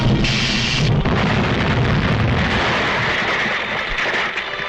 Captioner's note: explosion booms